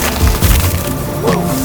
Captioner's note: mud splatting